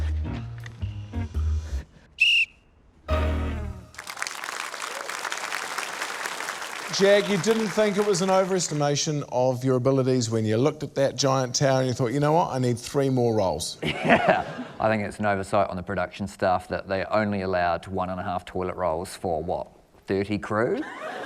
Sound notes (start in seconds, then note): 2.1 trills whistle; 3.8 applause; 13.8 laughter; 20.7 laughter